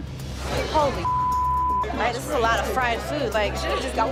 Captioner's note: beep